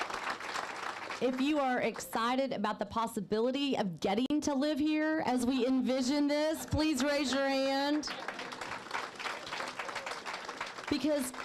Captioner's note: applause